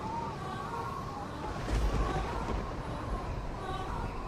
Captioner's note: thunder rumbles